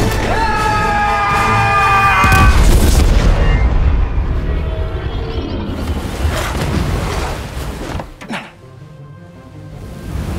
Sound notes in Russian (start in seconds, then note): 8.1 выдох